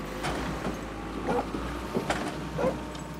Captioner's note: dog barking